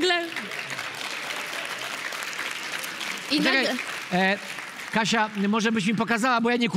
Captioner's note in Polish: Aplauz